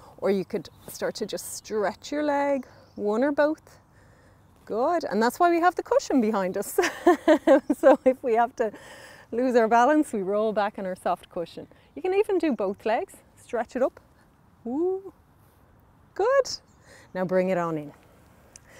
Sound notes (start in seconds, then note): 6.8 laughing